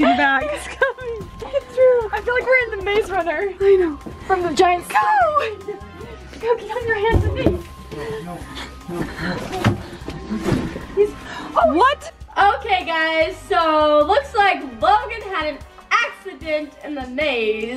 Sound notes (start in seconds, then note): 11.0 gasps